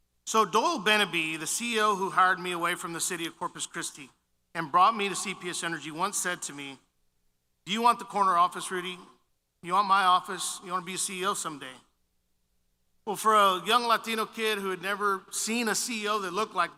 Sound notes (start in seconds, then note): none